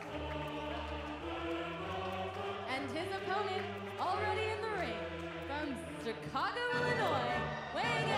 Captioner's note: crowd cheering